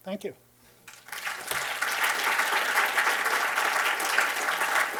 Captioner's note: applause